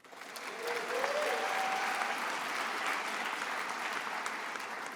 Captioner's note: attendees applauding